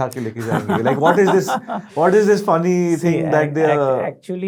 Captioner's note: laughing